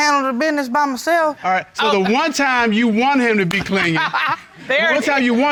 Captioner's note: laughs